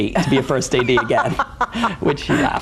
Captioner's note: laughs